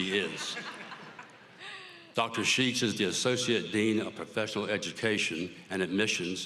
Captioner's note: applause